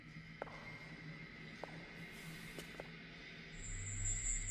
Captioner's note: suspenseful music; footsteps tapping